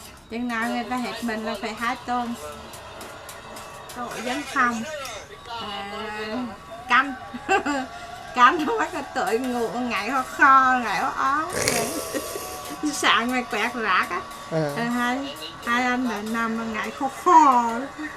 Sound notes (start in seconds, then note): 7.1 cười; 12.2 laugh